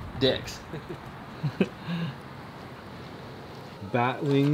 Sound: laughing

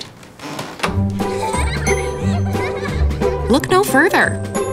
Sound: kids giggling

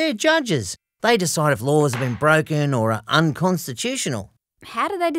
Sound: gavels bang

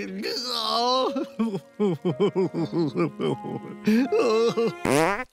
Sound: sobbing; farts

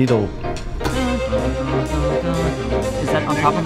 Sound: humming

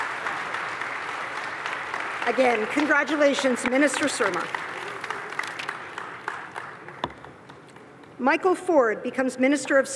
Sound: applause

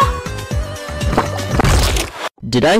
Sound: speaks chaos language

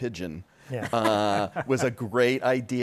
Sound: laughter

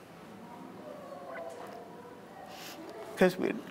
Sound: faint people chattering

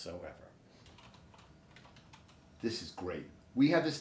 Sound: computer keys clicking

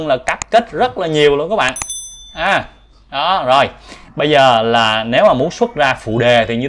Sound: bell sound

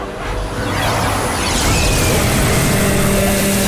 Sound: screaming

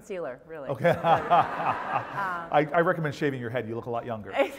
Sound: laugh; laugh

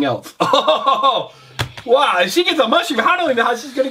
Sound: chuckles

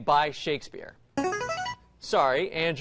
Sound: buzzer plays

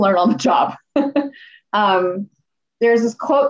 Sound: laughter

